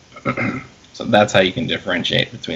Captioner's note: clears throat